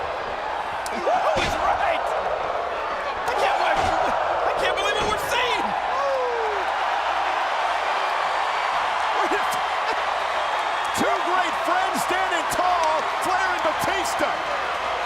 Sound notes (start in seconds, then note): 7.0 audience cheering